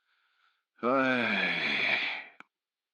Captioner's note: groan